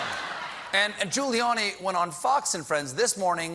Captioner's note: laughter